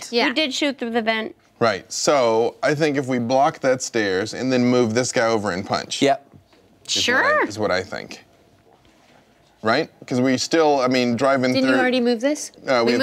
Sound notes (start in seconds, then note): none